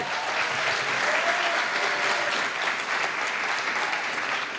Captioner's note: applause